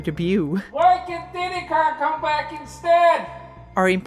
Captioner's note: Shouting in the distance: "Why can’t Diddy Kong come back instead?!"